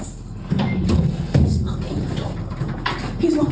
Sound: whispering

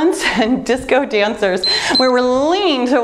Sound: timer beeps

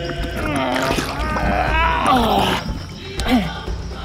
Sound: groaning with effort

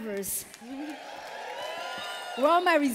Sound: cheers

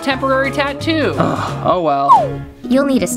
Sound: sighs

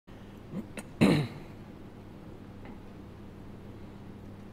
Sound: clears throat

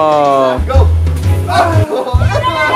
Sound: groans

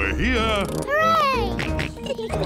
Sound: kids giggling; george oinks

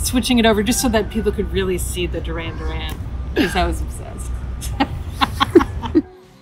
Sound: laughter

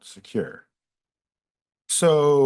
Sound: pause

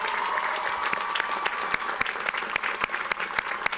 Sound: audience applauds

